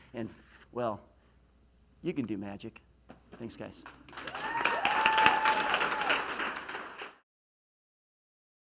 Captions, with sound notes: and well, you can do magic. Thanks, guys. (applause)